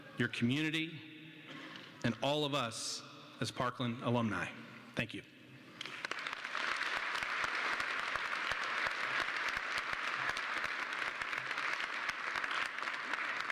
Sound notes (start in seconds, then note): 5.8 applause